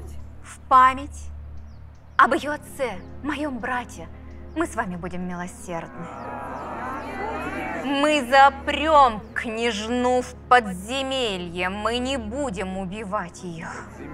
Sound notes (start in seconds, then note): 5.8 unsure cries of consent